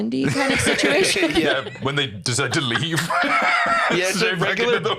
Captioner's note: laughs